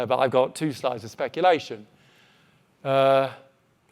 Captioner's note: none